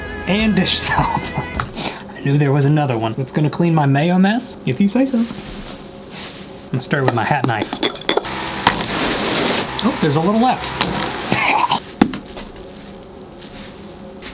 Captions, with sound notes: And dish soap! I knew there was another one. That's going to clean my Mayo mess? If you say so! Let's start with my hat knife. (spoon rattles) (liquid splashes) There's a little left. (chokes)